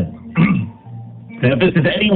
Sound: clears throat

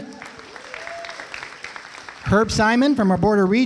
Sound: applause

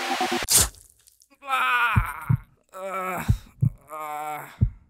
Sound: cries out in pain

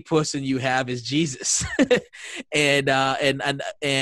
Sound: laughing

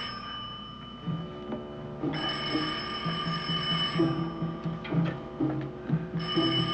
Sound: phone continues ringing; suspenseful music

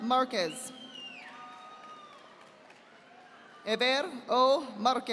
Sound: audience applauding

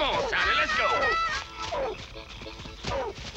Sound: barking

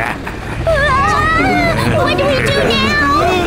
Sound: all shout nervously

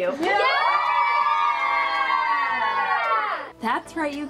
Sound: family cheering

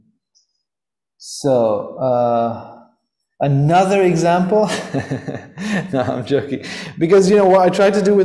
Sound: laughs

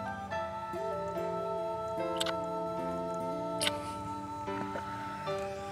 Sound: smooch

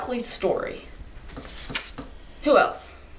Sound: page turning

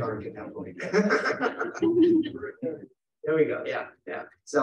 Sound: laughing

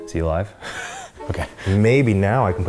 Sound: laughs

